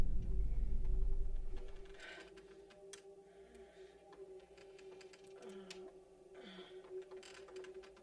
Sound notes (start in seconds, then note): 1.6 gasping Softly